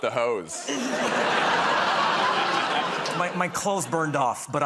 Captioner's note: laughter